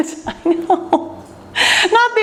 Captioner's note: laughs